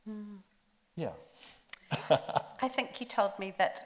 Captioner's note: laughs